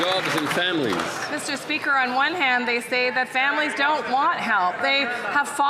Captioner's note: some Applause